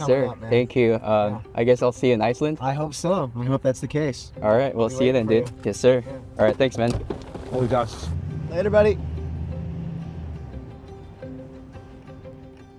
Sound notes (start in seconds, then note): 7.8 speaking in foreign language; 10.5 soft instrumental music